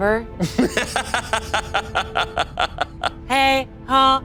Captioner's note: laughing; vocalizing